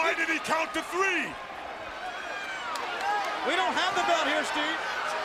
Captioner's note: crowd chatter